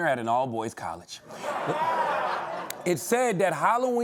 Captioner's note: laughter